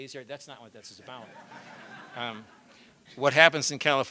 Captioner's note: laughter